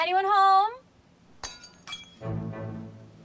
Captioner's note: glass breaks